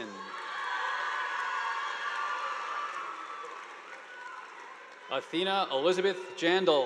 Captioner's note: students cheering; audience applauding